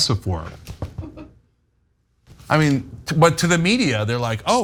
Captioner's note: laugh